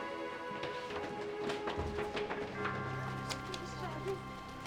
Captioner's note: none